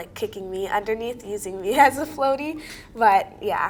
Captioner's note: laughs